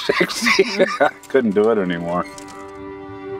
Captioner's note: laughs